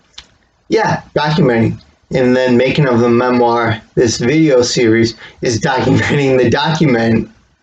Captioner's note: chuckles